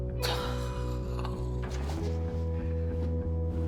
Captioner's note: pleasant electro rock music; Drew sighs; pleasant electro rock music